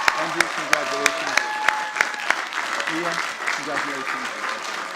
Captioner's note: audience chattering